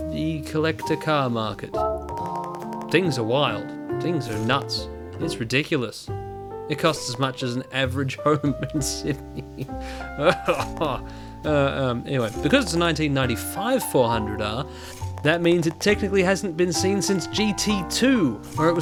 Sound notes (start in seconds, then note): 10.2 pained laughter